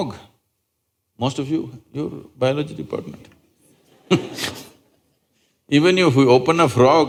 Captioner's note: laughter